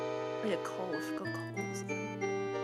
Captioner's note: whispers